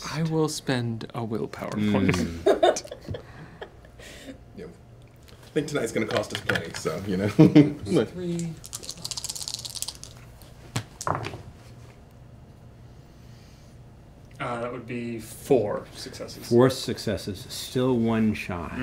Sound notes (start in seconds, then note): 2.1 laughing; 8.6 dice rattle and thud